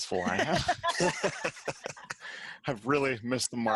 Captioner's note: laughing